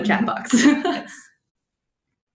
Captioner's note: laughter